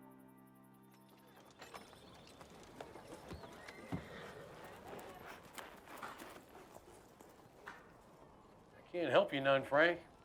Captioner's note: horse trotting, jingling